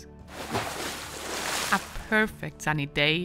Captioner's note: water splashing